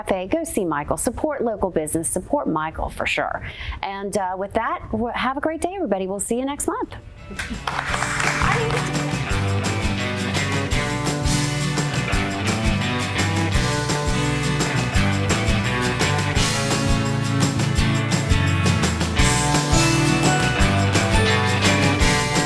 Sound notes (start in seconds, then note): 7.3 applause; 12.5 upbeat music